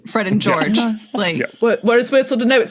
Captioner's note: wheezes